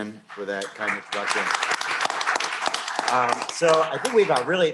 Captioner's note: applause